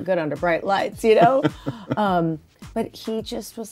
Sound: laughs

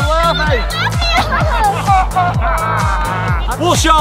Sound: laughs loudly

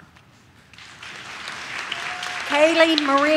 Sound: audience cheers

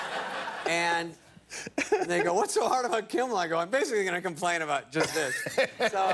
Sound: laughter

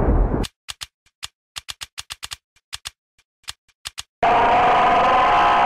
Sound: thunder; clicking; Goldren Freddy's scream

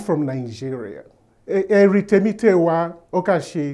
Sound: speaking Yoruba

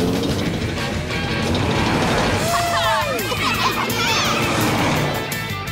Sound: cheering

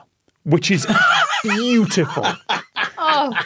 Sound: laughs heartily

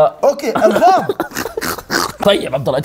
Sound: laughs

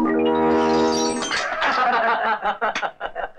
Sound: laughing

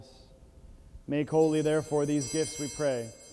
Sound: bells ringing

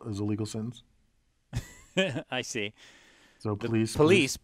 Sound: laugh

